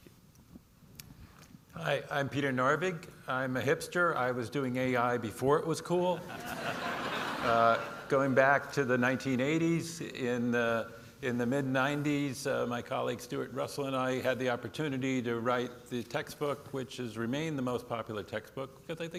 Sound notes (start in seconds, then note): 6.2 audience laughing